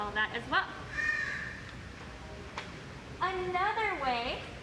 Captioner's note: bird squawk - walking to table